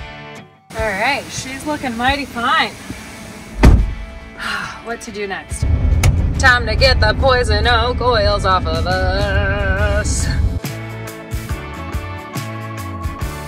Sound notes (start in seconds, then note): 4.3 sighs; 10.7 upbeat music